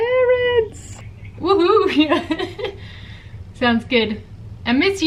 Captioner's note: laughing